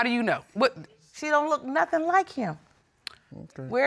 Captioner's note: clicks tongue